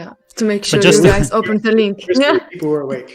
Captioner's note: laughs